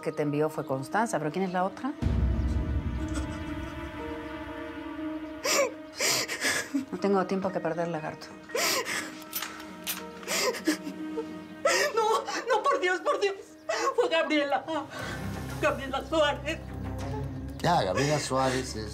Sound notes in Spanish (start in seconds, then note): 5.4 Sollozos